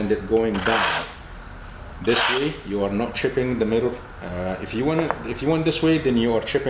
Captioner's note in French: scratching